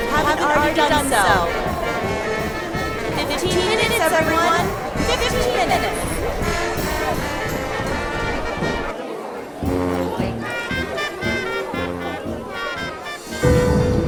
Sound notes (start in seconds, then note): 7.5 people chattering; 9.4 upbeat marching band music